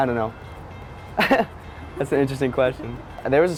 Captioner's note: laughs